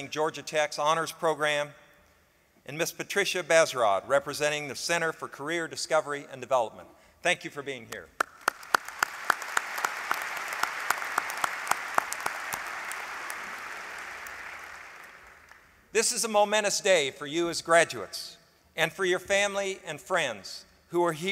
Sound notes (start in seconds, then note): 8.1 applause